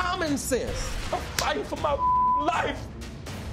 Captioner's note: beep